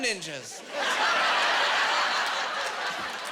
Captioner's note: laughing